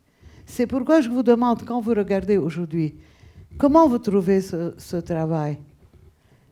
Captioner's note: speaking a foreign language